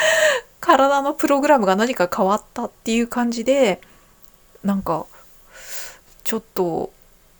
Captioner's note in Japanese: 笑い